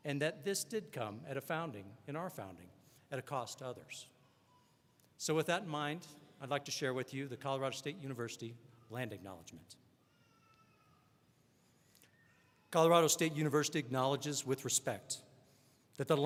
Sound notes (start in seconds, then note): none